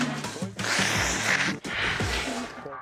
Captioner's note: sneezes; blowing nose